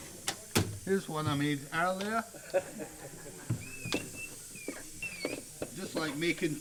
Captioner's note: background laughs